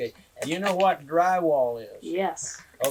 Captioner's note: laughter